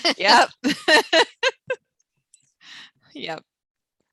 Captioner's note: laughs